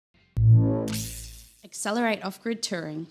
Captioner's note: electricity buzzing